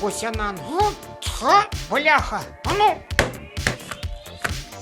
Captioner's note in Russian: звуки ударов